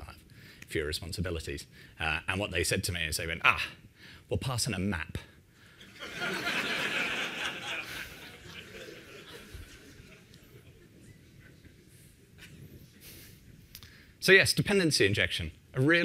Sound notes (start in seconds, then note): 5.8 laughter